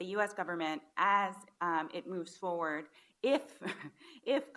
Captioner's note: laughs